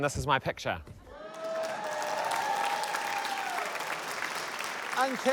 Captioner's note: cheering, applause